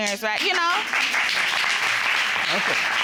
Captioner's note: audience applauding